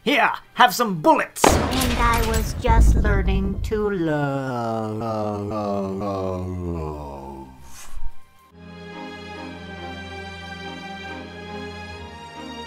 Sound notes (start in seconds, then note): 4.5 powering down noises; 9.0 classical music